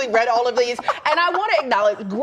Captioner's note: laughter